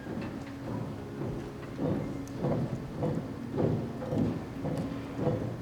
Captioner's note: guards marching